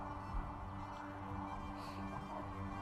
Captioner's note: sniffles, emotional